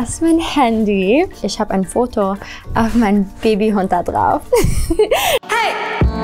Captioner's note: laughs